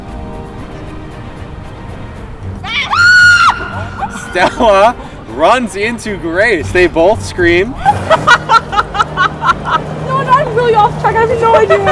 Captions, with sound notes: (screaming) Stella runs into Grace. They both scream. (laughing)